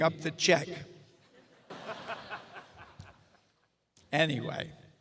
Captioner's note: audience laughs